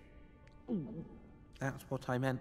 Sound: gulp

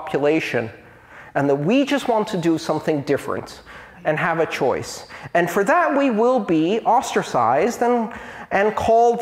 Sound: aspiration

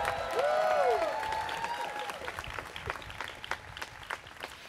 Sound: students cheering

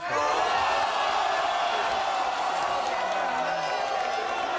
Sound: audience yells and boos

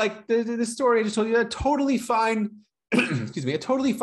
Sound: coughs

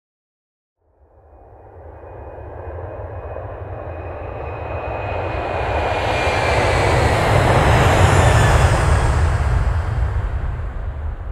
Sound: sound of a plane passing overhead

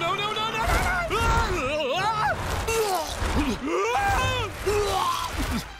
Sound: shrieking, vomiting

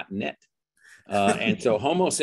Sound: laughs

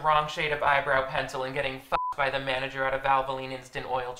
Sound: beeps

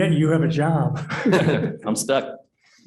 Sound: laughter

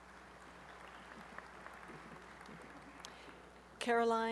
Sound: applause

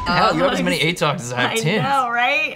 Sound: beep

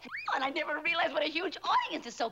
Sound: squeals

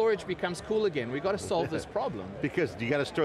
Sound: laughter

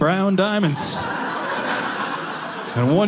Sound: audience laughing

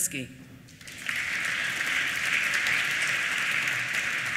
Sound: applause

